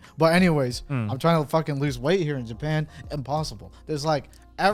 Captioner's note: none